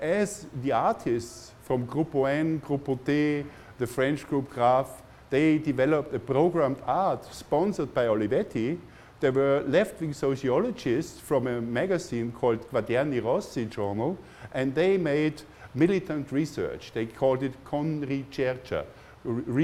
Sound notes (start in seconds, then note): 13.4 foreign language